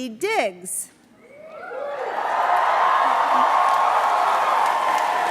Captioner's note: cheering